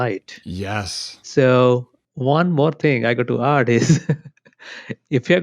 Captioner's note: laughs